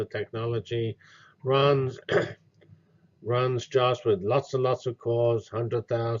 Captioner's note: cough